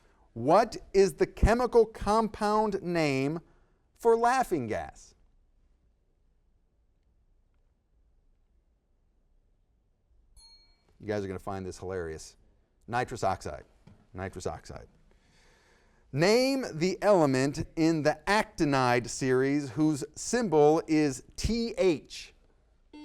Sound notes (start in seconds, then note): 10.4 bell dings